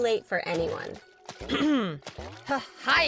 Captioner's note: clearing throat